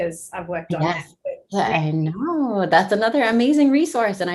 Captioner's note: murmuring